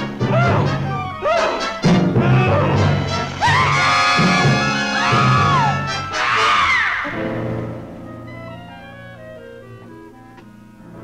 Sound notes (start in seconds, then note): 3.1 small Dove screaming